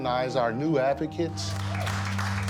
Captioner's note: applause